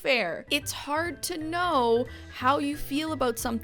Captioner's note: none